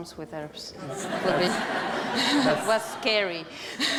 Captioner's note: laughter